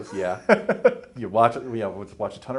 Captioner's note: laughs